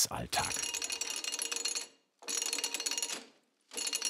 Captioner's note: bright metallic rattling